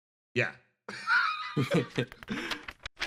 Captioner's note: laughs